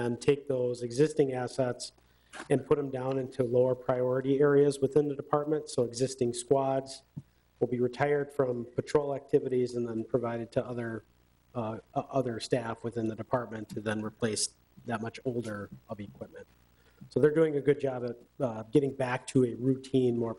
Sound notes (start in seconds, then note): none